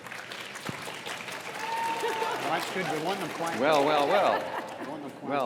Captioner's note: audience applauds - quieter